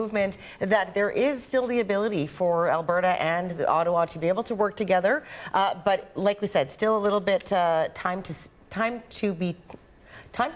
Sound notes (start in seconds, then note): none